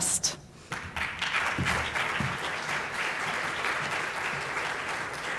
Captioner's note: audience applauding